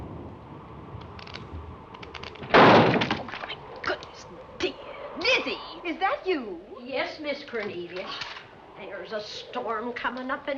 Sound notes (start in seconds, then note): 2.4 loud crash